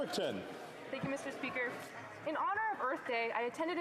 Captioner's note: speaking in French